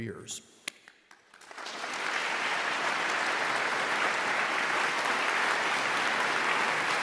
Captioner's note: audience claps